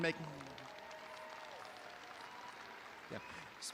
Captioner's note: audience applauding